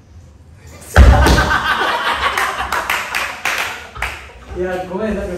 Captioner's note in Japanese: 拍手